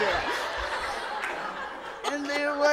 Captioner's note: audience laughs